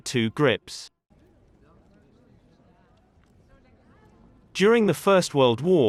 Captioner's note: people chattering